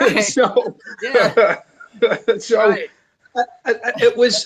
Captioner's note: laughs